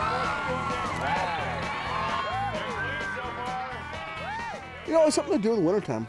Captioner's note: crowd applauding